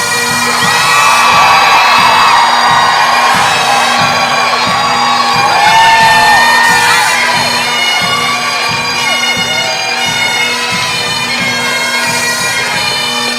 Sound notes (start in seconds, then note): 1.1 crowd cheering; 9.5 gentle music continues